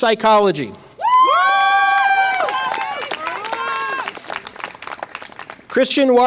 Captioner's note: audience applause and cheer